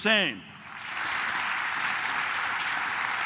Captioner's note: claps